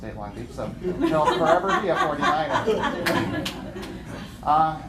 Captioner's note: laughter